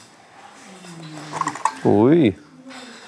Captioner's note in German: Leises Scheppern